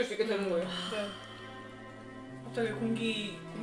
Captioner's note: sigh